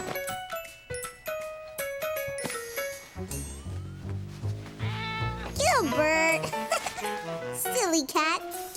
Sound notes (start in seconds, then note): 6.3 giggles